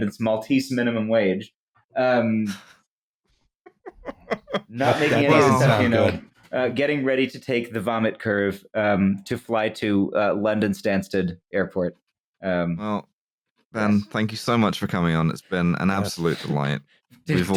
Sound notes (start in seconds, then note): 3.6 laughter